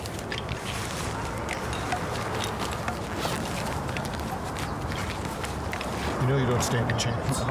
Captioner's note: tinkering of chess pieces